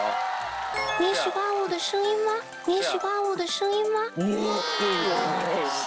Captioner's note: Loli voice